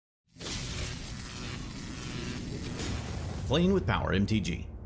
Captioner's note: electricity buzzing